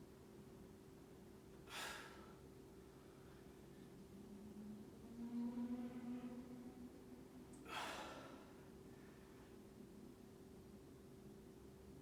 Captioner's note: inhaling and exhaling